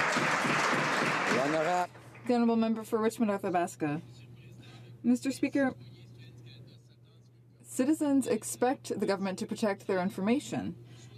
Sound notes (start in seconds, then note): 2.3 some Applause